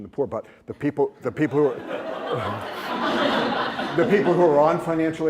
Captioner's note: laughter